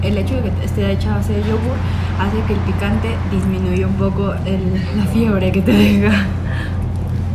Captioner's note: laugh